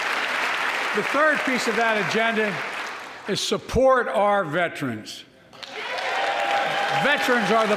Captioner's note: applause